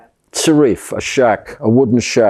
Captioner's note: hebrew